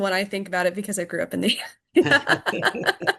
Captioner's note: laughs